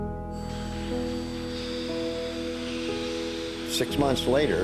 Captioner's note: machinery hissing